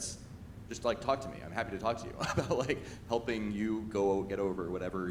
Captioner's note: chuckles